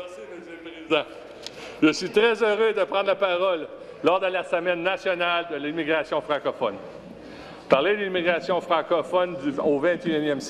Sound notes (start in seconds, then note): 2.2 chuckles; 5.4 speaking in French